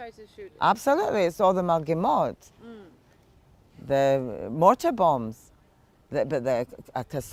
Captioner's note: hebrew